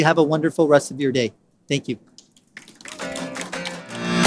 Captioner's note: applause